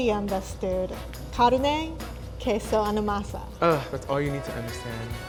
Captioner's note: speaking Spanish